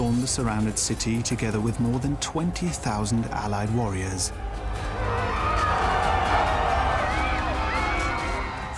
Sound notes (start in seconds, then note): 4.6 screaming